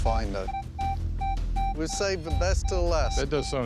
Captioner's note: beeping